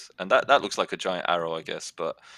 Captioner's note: none